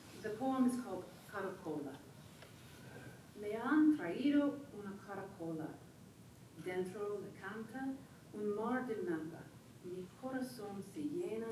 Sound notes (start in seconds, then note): 3.5 speaking foreign language